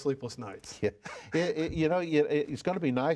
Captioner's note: laughs